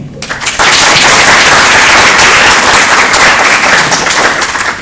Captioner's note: applause